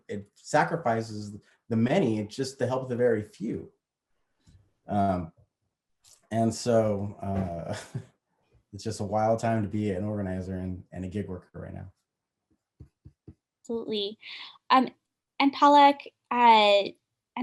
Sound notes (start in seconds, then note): 6.4 laugh